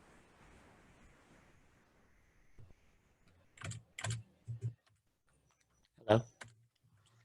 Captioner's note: no audio